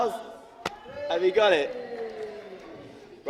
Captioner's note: applause from off camera